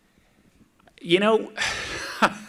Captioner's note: laughs